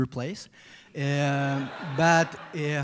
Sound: laughter

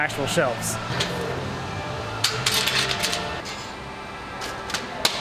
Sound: hammering

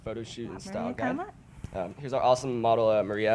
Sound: whispering

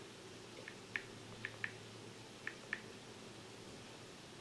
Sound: phone tapping

